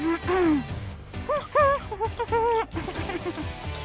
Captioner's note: hums